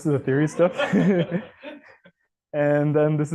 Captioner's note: laughter